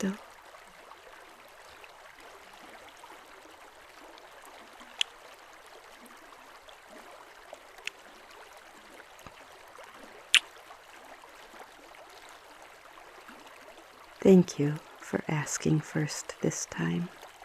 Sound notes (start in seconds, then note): 3.4 kissing